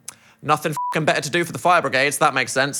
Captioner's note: beep